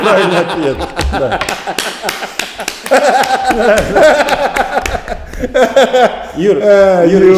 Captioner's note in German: Lachen und Applaus